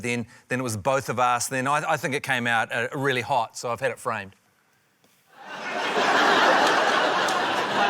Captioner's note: laughter